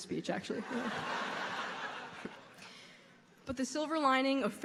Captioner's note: audience laughing